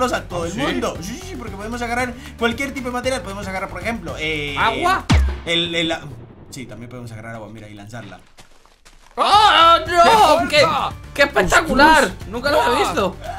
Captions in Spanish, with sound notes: -a todo el mundo -Si? Si, si porque podemos agarrar cualquier tipo de materia, podemos agarrar, por ejemplo eh... -Agua? el, el... Sí, también podemos agarrar agua mira y lanzarla! (Sorprendido) -Oh! Que... -Quieto, epa! -Ostras -qué espectacular! Nunca lo has visto.